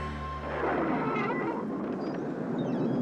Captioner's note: thunder